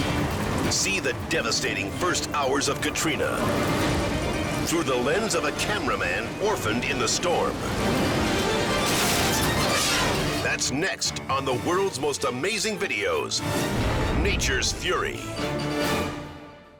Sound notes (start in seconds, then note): 8.7 air whooshes; 8.7 car clangs